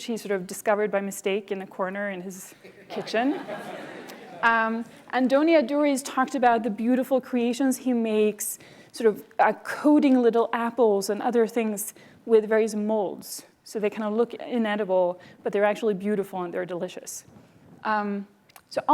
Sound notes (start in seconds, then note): 2.7 laughter